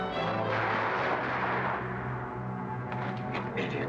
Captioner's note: guns firing